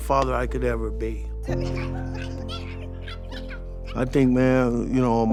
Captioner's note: giggling